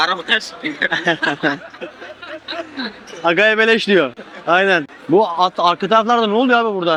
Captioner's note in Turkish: kahkaha